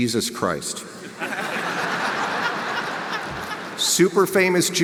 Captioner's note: audience laughs